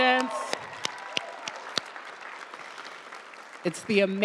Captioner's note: audience cheering and applauding